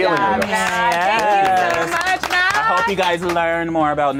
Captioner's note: group applauds